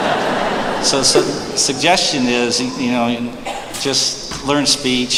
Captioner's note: laughter